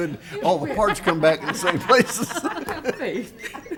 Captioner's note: laughs